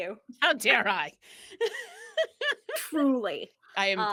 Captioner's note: laughs